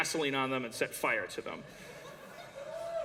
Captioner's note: cheering